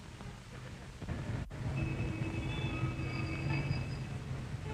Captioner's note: car revving